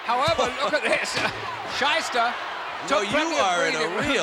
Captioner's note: laugh